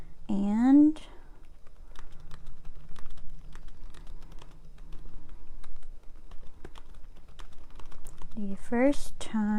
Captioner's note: typing on keyboard